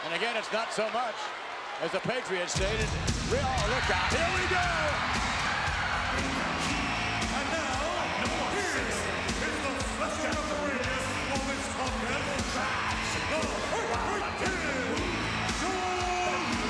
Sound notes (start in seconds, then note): 4.0 upbeat rock music; 5.7 crowd cheering